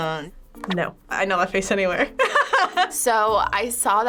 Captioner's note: laughing